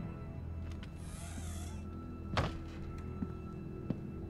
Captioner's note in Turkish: Kapı sesi